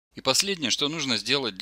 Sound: voiceover

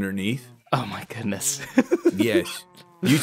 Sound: laughs

